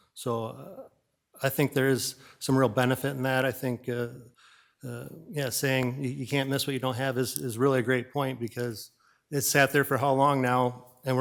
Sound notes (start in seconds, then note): none